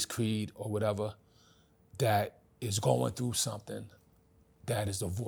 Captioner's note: none